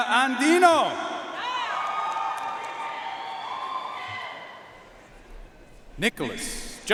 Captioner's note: audience cheering and applauding